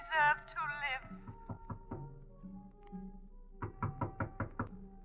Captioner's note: knocking